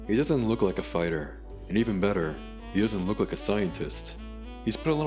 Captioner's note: inner monologue